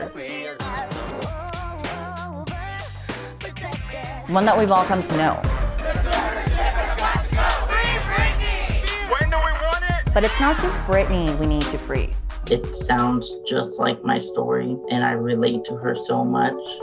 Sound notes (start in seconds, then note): 5.4 crowds chanting